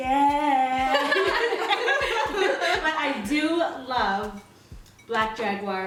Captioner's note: laughter